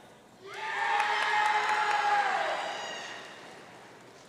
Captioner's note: audience cheering